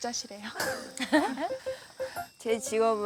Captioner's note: laughing